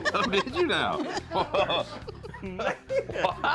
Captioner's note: laughs